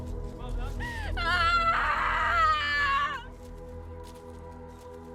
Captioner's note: Estrid crying